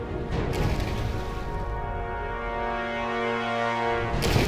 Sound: explosions

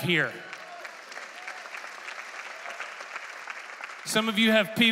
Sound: congregation applauding

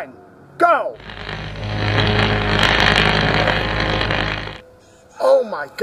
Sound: buzzing sound of miniature Hot Wheels car transforming into full size car

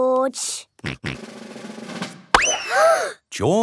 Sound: bang; children gasp

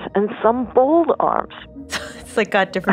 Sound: laughs gently

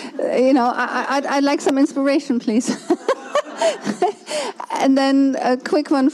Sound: laughs

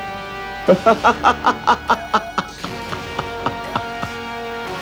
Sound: laughs

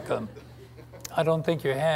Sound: audience laughs

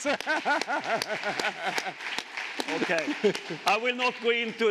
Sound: chuckles

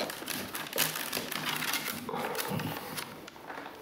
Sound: struggled sound

